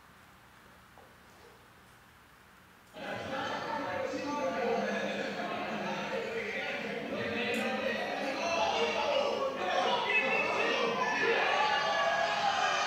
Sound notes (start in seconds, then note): 2.9 crowd chanting